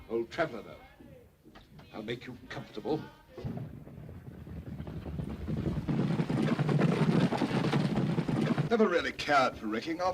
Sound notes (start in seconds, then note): 3.4 hooves pounding